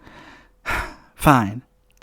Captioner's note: sighs